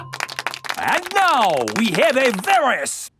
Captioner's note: applauding